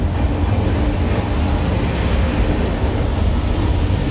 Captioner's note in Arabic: اندفاع الماء